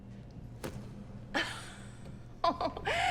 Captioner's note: Elaine laughs